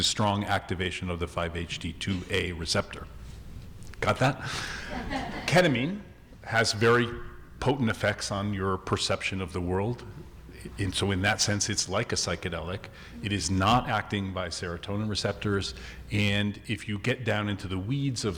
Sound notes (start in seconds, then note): 4.6 audience laughing